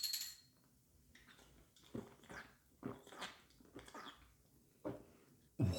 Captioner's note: gulp... gulp... gulp; oaaah